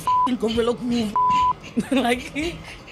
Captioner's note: beep